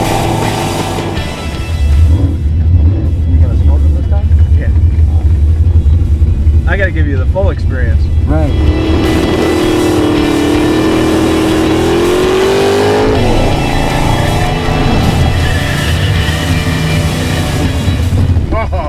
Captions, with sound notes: - Yeah. I gotta give you the full experience. - Great. (engine revs) (energetic rock music) (tires squeal)